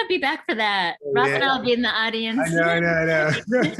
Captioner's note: laughs